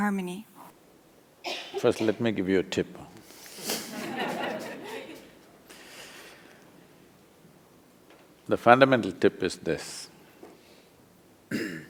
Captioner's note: laughter